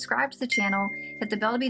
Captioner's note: bell rings